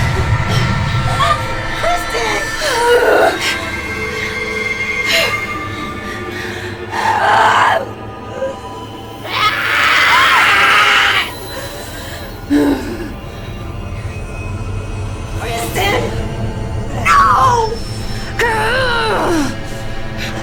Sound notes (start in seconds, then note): 1.0 grunting; 2.4 dramatic music; 3.5 grunting; 6.9 screaming; 18.3 grunting